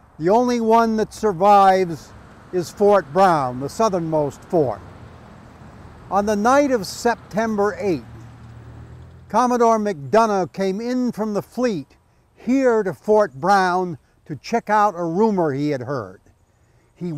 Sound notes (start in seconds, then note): none